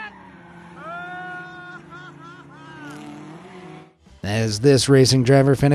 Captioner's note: laughs